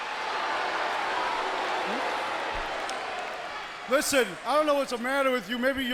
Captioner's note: crowd cheering